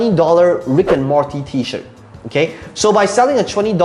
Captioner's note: air whooshing